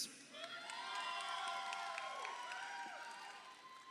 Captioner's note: crowd cheering